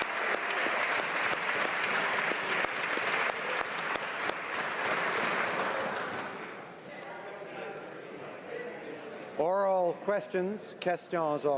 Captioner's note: applause